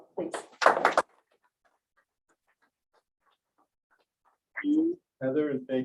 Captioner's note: applause